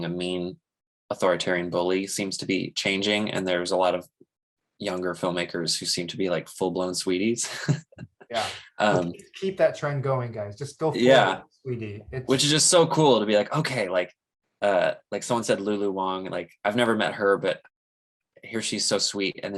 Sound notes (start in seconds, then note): 7.4 chuckles